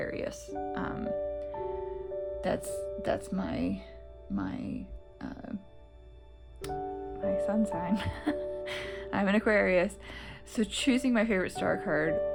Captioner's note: laugh